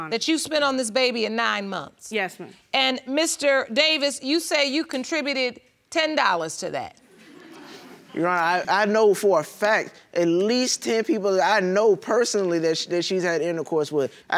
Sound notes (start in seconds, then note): 7.1 audience laughing